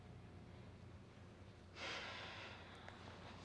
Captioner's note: sighs